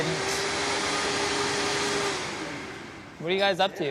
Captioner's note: vacuum running